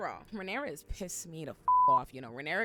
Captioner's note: beep